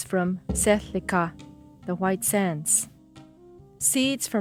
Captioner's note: speaking a foreign language